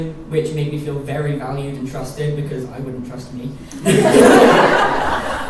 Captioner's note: laughter